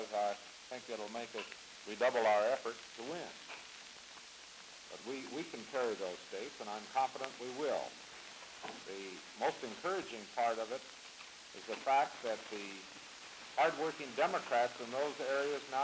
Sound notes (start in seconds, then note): none